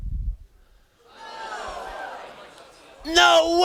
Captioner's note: students gasping